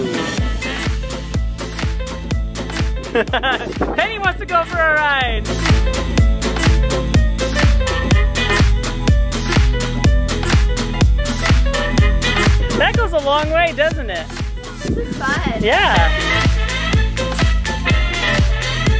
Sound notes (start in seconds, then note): 3.0 laughs; 5.7 cheerful music; 16.0 cheerful music